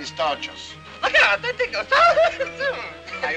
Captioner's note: laughing